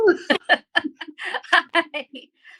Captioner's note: laughter